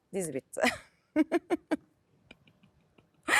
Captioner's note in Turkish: kahkaha